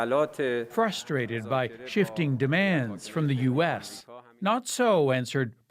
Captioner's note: speaking alternate language